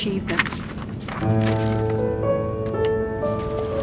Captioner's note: sound of pages turning